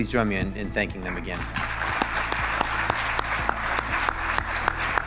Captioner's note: audience claps; claps; bright upbeat music